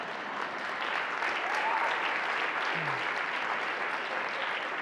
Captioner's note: audience applauding